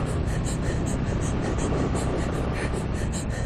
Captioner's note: panting stiII harder